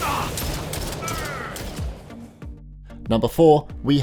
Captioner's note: man grunting; man yelling; gun banging